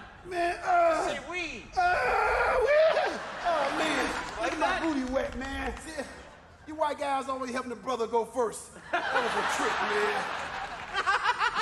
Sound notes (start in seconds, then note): 2.1 groaning; 8.8 audience laughing; 11.3 giggling